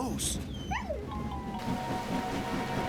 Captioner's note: whines